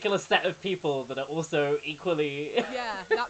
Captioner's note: laughs